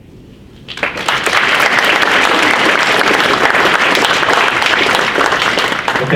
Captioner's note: audience applauds